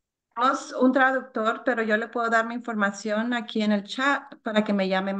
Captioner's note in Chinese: 发言者说外语